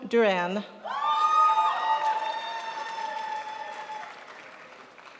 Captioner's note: crowd applauds